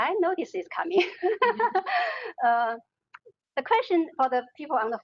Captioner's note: laughing